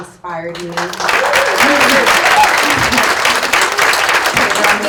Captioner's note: audience applauds